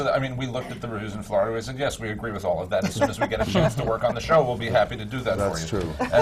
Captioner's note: laughs